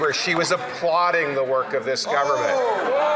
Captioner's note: some Applause